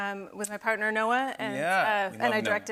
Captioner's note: none